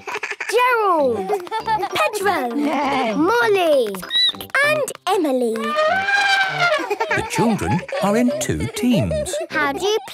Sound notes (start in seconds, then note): 1.7 neighing; 3.9 squeaking; 5.5 trumpeting